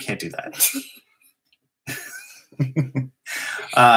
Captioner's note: laughter